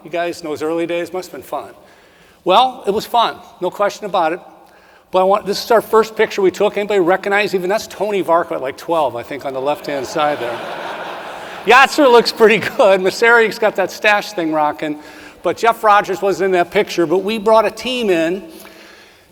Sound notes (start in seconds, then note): 9.6 audience laughs